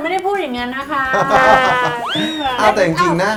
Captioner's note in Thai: หัวเราะ